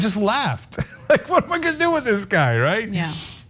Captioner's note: laugh